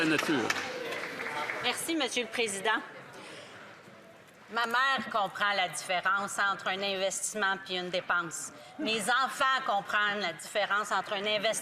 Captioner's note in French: applaudissements